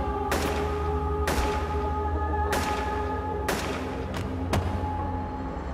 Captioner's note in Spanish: Disparos